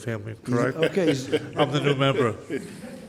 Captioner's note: laughs